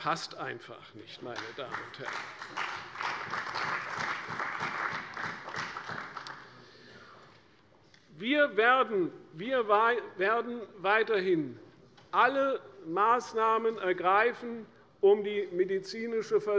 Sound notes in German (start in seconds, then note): 1.3 Beifall bei der CDU und der FDP